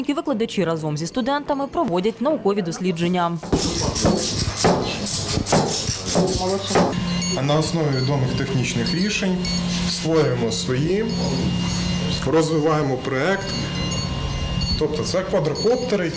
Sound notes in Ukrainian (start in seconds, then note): 3.4 стукіт